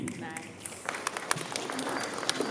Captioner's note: applause